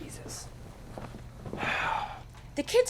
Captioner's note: sighs